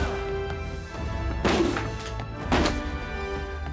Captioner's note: grunting